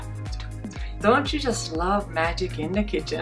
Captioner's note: clicks